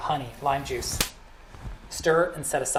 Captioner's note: hand smacking